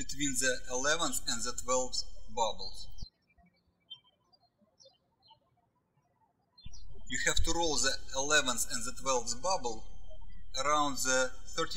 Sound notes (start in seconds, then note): 4.0 birds chirping